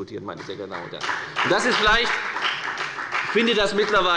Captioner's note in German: Beifall bei der FDP